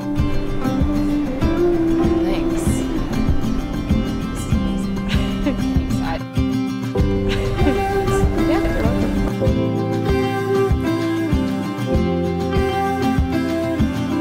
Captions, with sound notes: Thanks. This is amazing. (laughs) Thanks. - Yeah, no problem.